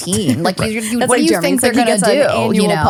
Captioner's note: overlapping chatter